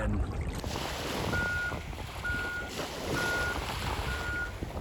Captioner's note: beeping